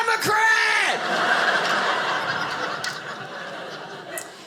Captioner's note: audience laughing